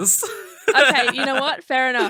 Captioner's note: laughing